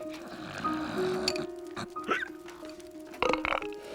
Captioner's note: snoring